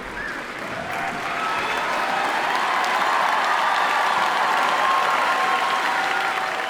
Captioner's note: attendees cheer and applaud